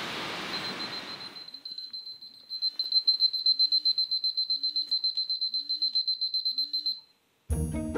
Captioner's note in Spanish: Sonido de Alarma